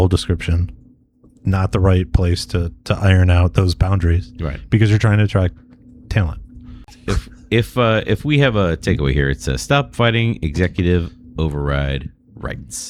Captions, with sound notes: description, not right place to, to iron out those boundaries. Right? Because you're trying attract talent. if if [UH] if we have a take away here, it's a stop fighting executive override rights